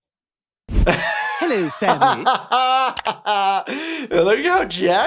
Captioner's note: doctor laughs